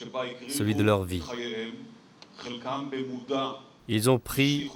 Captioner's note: French spoken audio